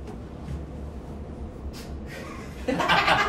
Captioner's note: spits out drink